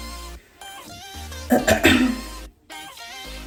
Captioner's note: clears throat